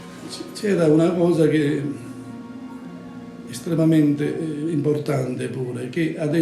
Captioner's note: speaks in foreign language